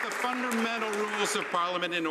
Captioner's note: some Applause